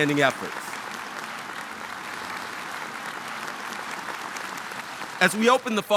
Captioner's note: audience applauding